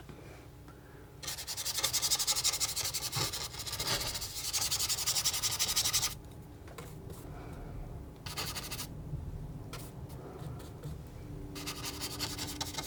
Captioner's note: scratching